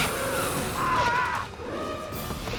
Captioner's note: screams